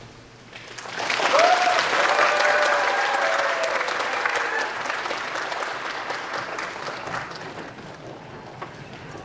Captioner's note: applause